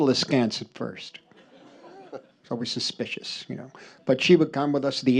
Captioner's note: laughter